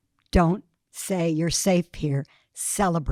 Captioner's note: none